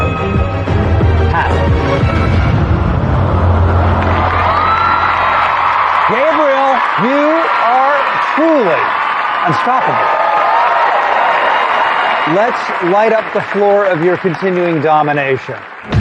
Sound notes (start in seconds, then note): 4.0 audience gasps; 10.0 cheering and applause